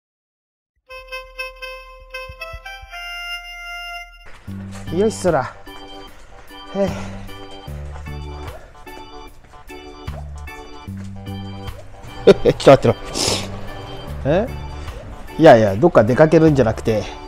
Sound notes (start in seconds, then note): 12.1 laughs